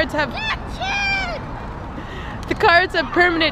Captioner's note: child screaming